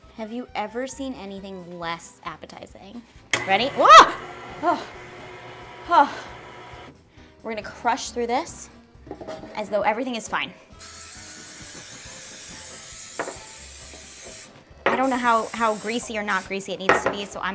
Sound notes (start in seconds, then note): 3.3 blender whizzing; 4.3 exhaling; 11.0 cooking spray hissing; 11.0 quiet upbeat music